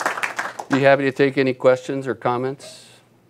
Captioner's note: applause